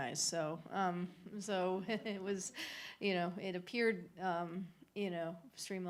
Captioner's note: laughter